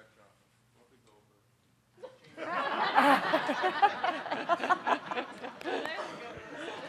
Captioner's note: all laughing